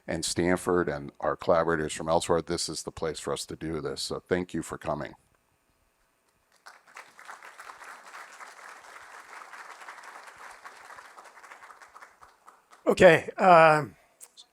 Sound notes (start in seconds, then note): 6.4 applause